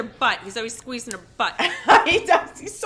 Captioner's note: laughing